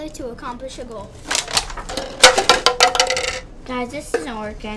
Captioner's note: cups falling